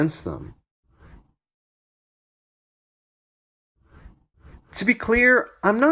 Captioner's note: transition swooshes